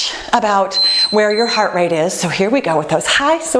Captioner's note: beeping